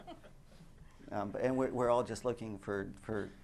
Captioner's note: laughter